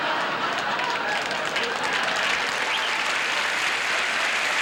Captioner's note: audience laughing; audience applauding